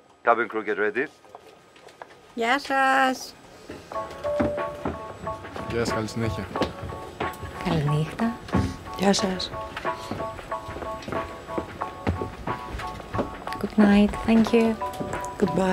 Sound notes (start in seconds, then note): 2.3 foreign language; 3.9 airplane beeps; 3.9 bubbly jazz music; 5.6 Vanina and passengers speaking foreign language